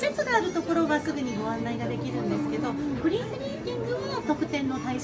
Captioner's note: guide speaking Japanese